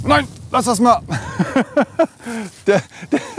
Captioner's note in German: lacht